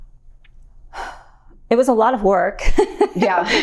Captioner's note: exhales sharply